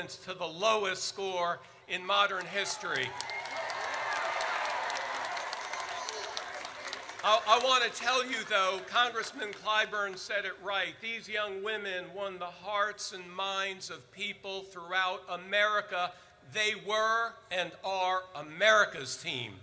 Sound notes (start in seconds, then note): 2.4 audience cheers